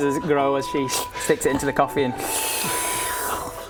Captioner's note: sluuuuuuurp